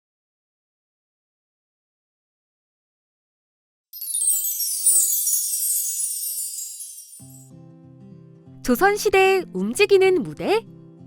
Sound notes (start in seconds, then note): 3.9 shimmering sound; 7.2 gentle music